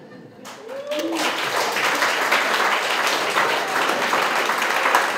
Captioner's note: cheering and applause